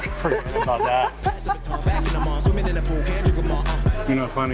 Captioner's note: laughs